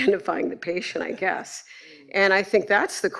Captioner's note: laughs